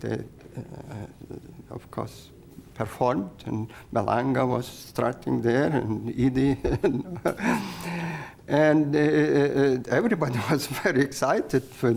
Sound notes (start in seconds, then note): 6.5 laughs